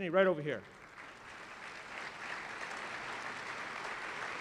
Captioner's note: applause